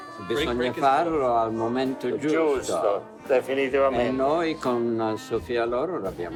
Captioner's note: speaking Italian